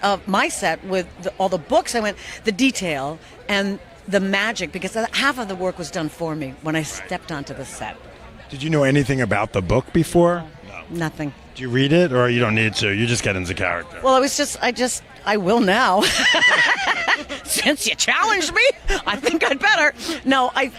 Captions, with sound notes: of my set with all the books, I went "The detail and the magic" because half of the work was done for me - Right - When I stepped onto the set. - Did you know anything about the book before? - No. - No - Nothing. - Do you read it? Or you don't need to. You just get into character. - Well, it was just, I just, I will now. (laughs) Since you challenged me, I think I'd better.